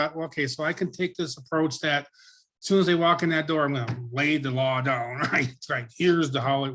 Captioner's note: laughs